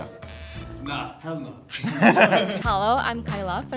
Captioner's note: laughs